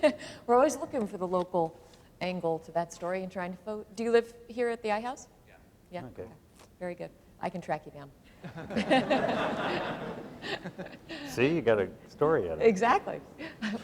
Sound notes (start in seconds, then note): 8.4 laughter